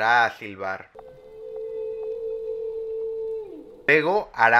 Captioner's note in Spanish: Silbido de ballena jorobada